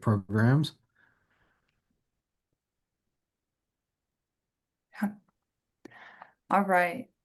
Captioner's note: silence